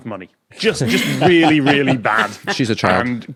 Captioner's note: guests laughing